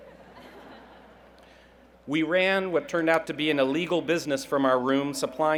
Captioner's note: laughter